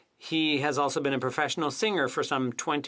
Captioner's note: speaking French